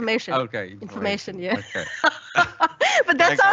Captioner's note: laughs